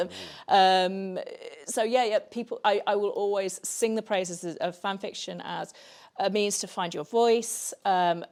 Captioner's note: laughs